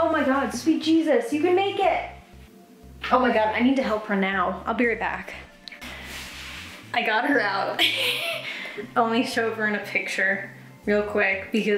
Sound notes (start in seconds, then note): 7.8 laughs